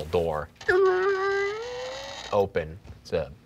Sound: mimicking metal door creaking open

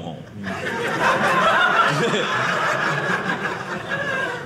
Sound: audience laughing

